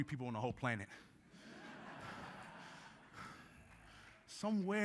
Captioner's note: group laughing